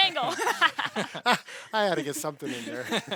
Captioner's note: everyone laughs